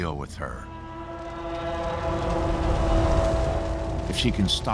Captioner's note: roaring